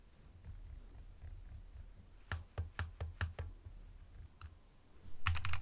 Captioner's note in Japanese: 打鍵音